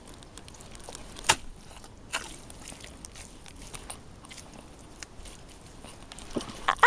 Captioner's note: wet sound of being stuck in the mud; laughs